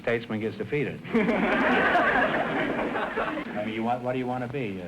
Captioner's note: audience laughter